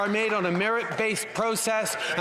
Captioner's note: some Applause